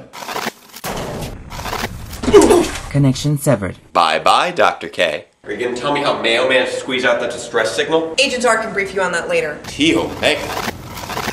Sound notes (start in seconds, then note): 0.8 thud!; 0.8 portal Closes; 0.8 portal Opens